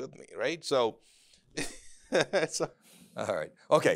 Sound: laughs

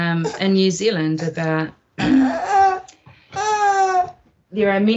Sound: baby cries

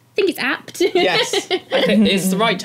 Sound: laugh

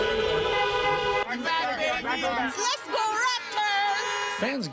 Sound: horns honking

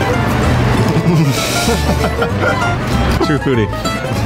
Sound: laughing

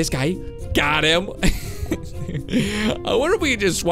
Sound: chuckles

